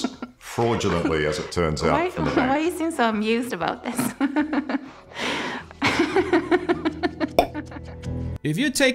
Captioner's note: laughter